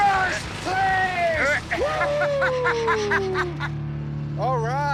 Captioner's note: laughs